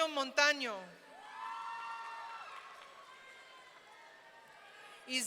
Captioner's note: audience cheering